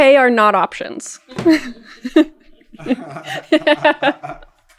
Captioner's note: laughter